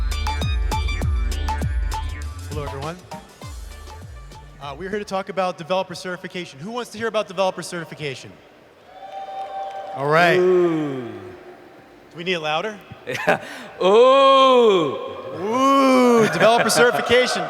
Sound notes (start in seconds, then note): 8.8 cheers; 13.0 laughs